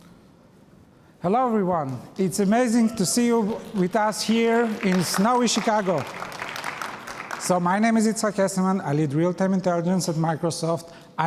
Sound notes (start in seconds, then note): 6.0 applause